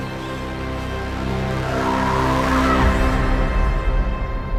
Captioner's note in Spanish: grito que hace eco; la música se desvanece